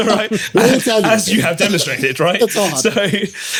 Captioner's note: laughing